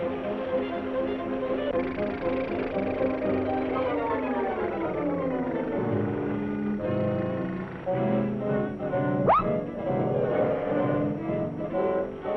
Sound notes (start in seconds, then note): 1.7 engine puttering